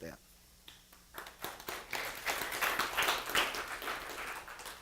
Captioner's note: applause